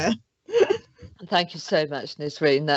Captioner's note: chuckles